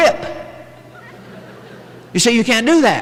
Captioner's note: chuckling